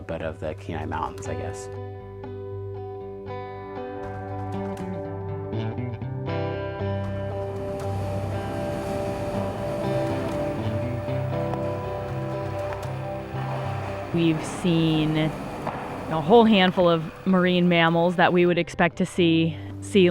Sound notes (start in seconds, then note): 2.5 upbeat music; 9.1 wave crashing